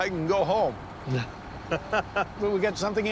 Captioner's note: laughter